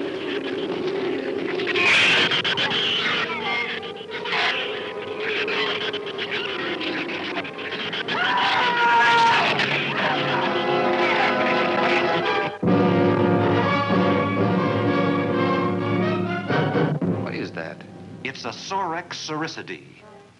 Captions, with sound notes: (shrews squealing) (man screaming) - What is that? - It's a Sorex soricidae.